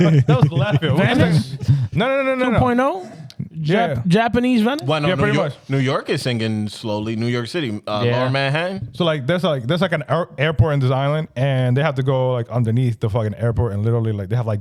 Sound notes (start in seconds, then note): 0.9 speaking In Foreign Language